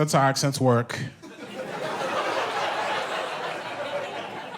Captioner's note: audience laughs